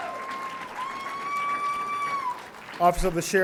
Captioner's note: audience cheering; audience applauding